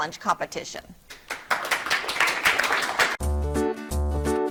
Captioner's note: audience clapping; upbeat bright music